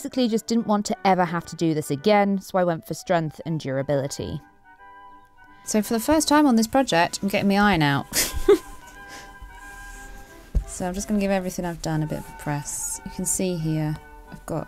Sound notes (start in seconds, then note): 8.1 chuckles